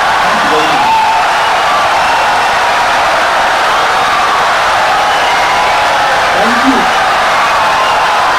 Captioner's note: audience cheering, applauding for 17 seconds